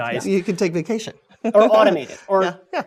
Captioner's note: laugh